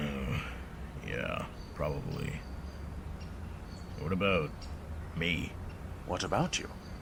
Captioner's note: slight annoyed grunt